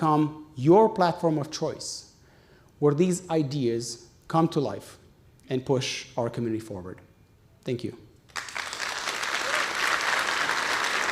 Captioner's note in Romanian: Aplauze